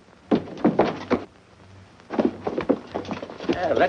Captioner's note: thudding